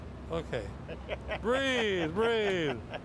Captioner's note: laughs